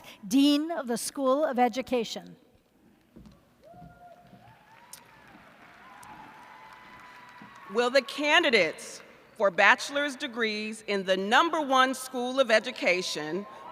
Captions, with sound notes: Dean of the School of Education. [ Cheers ] >> Will the candidates for bachelor's degrees in the Number 1 School of Education,